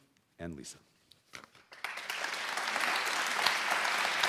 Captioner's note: applause